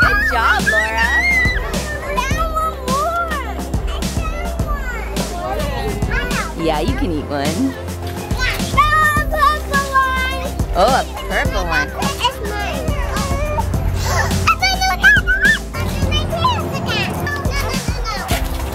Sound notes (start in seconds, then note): 14.0 children talking